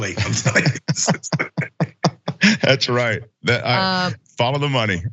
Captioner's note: laugh